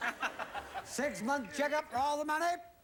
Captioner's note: audience laughing